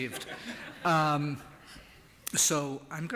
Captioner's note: laughter